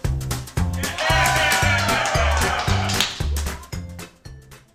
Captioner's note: cheering